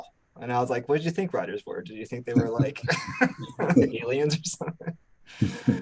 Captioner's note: laughs